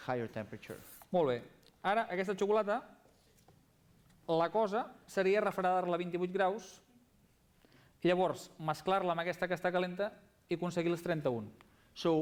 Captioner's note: non-english speech